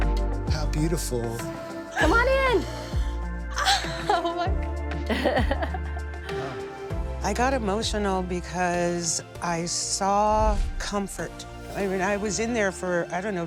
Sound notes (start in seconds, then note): 3.1 gasps; 5.0 laughs